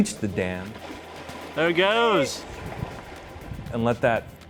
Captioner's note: voice - There it goes. Sound of running water